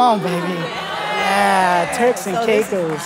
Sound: congregation shouting

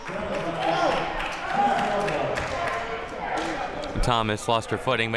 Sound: spectators applauding

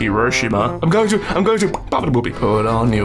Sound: pop

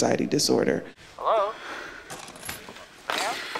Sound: on phone

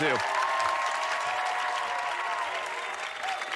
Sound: cheers and applause

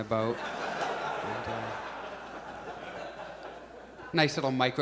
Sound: audience laughs

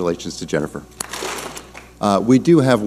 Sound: clap smack

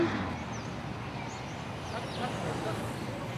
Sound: sound of cars passing; birds chirping

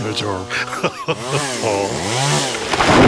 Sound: laughs

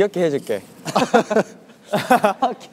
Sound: laughing

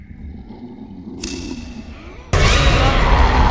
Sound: growling and clicking; loud growling

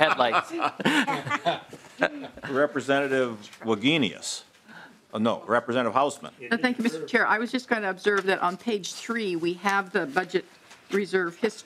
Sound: laughing

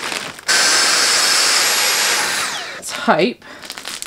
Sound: vacuum humming

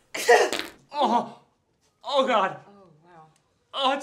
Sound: Lisa sneezes, squirts pee

